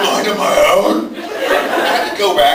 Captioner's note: laughs